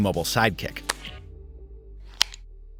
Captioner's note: clack